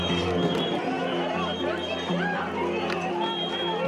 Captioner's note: whistle chirping